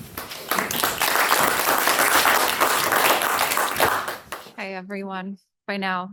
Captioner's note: audience applauding